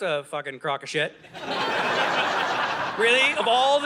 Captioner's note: audience laughing